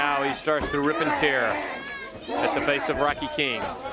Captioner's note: crowd chatter